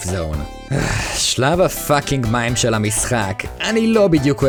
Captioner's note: sigh